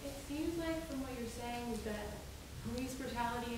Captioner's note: woman's Voice